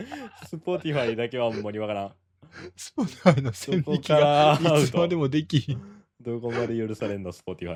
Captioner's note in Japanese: 笑い